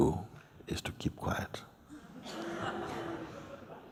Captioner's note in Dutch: zacht gelach